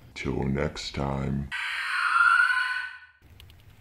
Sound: scary screeching

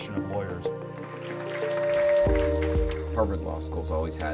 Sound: applause

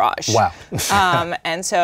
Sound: laughs

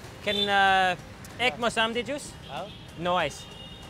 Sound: speaking foreign language

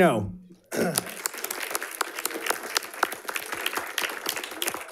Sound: audience applauding

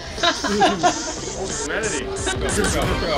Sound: laughing

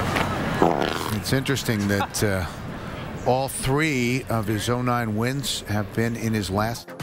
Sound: A quick laugh afterwards in the background

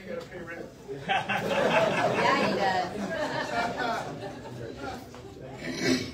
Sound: audience laughs; indistinct chatter

